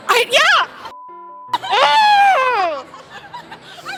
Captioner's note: frustrated, high pitched moan